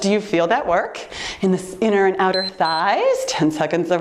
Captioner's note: timer beeps